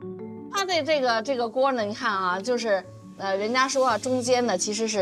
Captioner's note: speaking foreign language